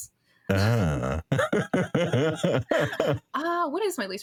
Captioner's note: laughing